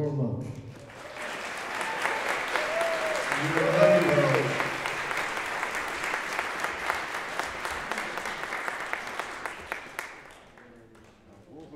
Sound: applause

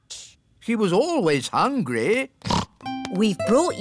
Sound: snorts

